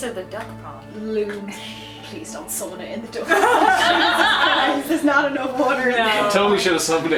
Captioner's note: laughter